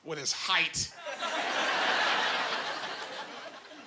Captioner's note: laughing